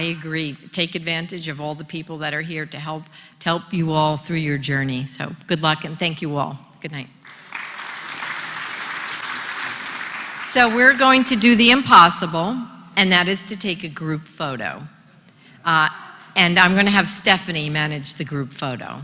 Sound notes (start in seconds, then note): 7.2 applause